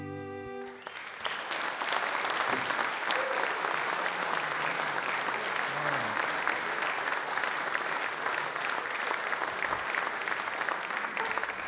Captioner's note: audience Applause